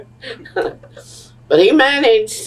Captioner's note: laughs